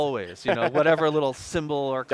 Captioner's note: laughing